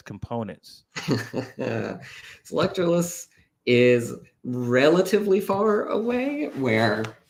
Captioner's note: laughs